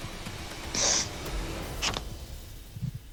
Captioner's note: sniffles